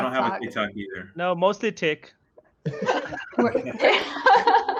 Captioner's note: laughs